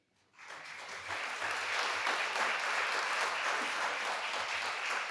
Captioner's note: audience applauding